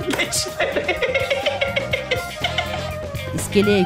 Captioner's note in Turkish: Gülme sesleri